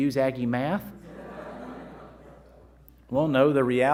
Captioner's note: crowd laughing